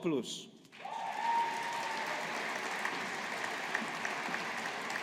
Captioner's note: audience applauding